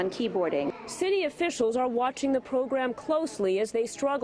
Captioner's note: voiceover